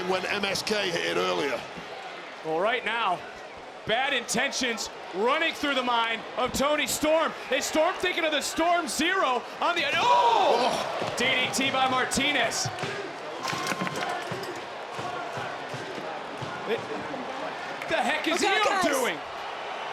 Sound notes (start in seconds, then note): 12.9 crowd chanting; 12.9 crowd cheering